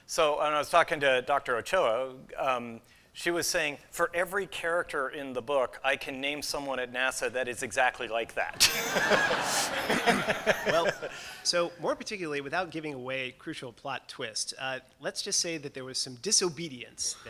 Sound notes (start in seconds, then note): 8.5 laughter